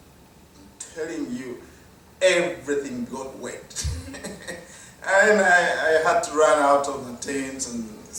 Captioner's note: laugh